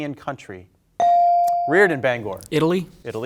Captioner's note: bell ringing